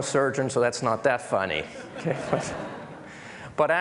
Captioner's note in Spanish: Risas